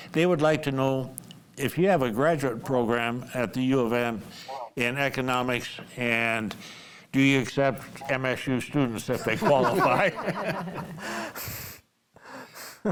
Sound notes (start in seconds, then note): 9.1 group laughs